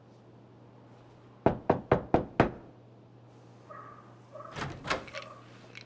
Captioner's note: Rico knocking at the door